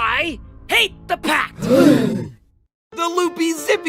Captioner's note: gasp